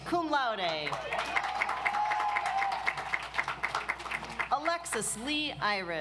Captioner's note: audience applauds